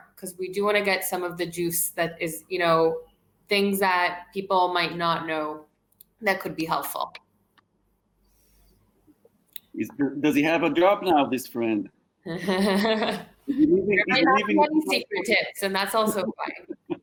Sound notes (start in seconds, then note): 13.4 chuckles